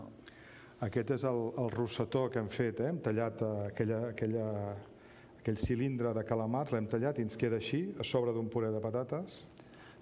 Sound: speaking catalan

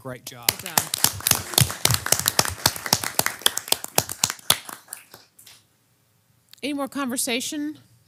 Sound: applause

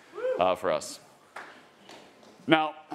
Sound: attendee applauding

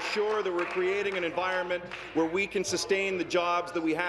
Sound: applause

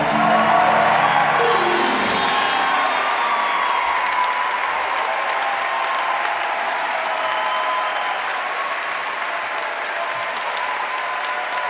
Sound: audience applauds

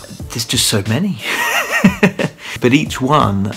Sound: laughs

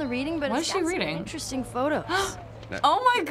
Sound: gasps

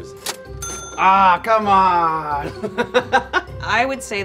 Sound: chuckles

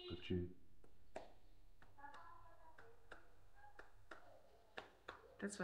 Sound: claps hands

